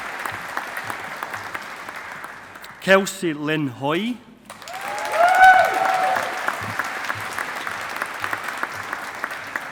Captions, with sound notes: Kelsey Lynn Haughie. (AUDIENCE APPLAUDING)